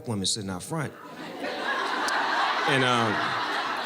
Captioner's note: audience laughing